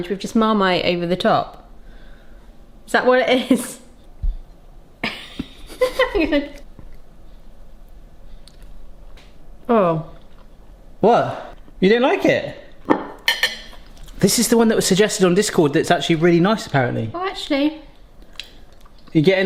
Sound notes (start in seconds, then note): 5.0 they chuckle; 13.1 plate plonks down